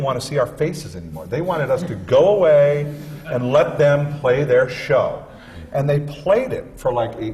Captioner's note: laughter